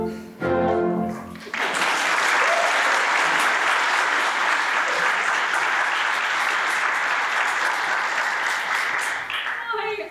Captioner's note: applause